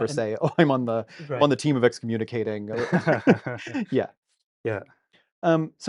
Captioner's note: both laugh